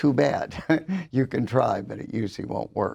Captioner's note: laughs